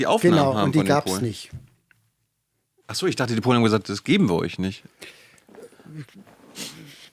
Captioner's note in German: schnauben